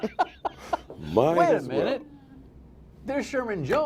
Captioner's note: laughter